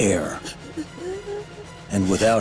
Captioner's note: gasping